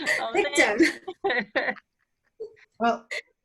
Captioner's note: laughter